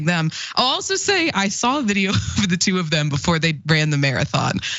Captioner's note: laugh